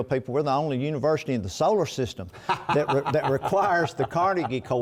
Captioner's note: laughter